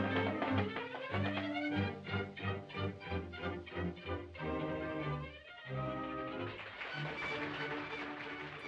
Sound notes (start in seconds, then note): 6.2 applause